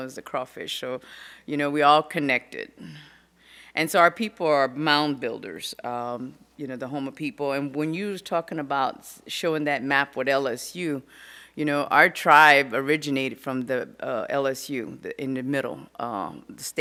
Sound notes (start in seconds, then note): none